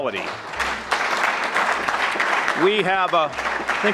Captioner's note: audience clapping